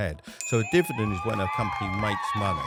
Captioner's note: bell dinging; crowd cheering